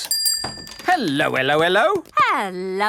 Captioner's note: bell rings